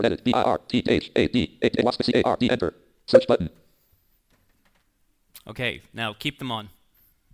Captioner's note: dialogue from screen reader